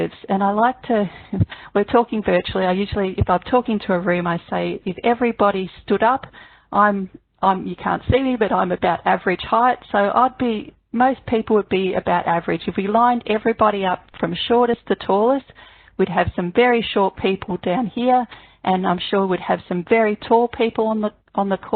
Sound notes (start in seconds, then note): 1.1 chuckles